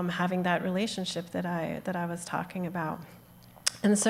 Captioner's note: none